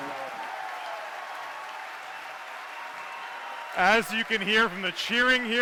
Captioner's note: cheers and applause